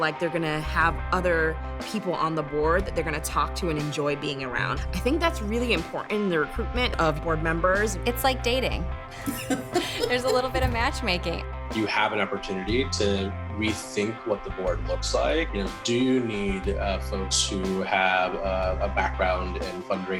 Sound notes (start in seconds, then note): 9.1 laughing